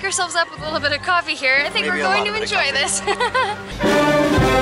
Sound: laughter

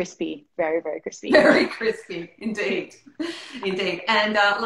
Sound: laughing

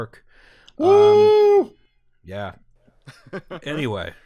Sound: unenthusiastically; laughter

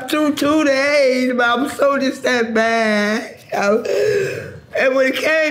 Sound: gasping

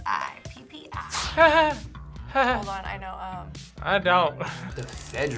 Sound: laughs

